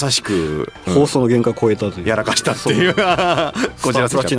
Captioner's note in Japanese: 笑い